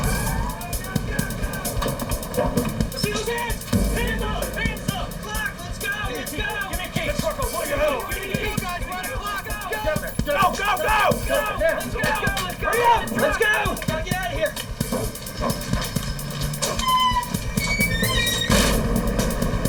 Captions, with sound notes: *Screaming* Excuse me Hands up Hands up Clock, let's go Let's go Give me a key Give me the key Go guys We're at a clock Let's go Go Go Go Hurry up Let's go Gotta get out of here *Screaming* *Dramatic music*